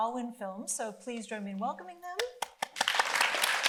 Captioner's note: applauding; audience applauding